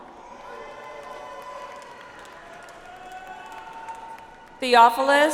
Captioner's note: audience applauds